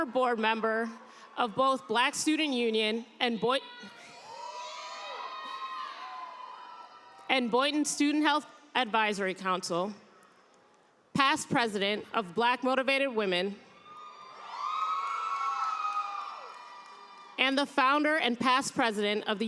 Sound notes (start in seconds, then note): 9.6 people cheering; 16.9 cheers and applause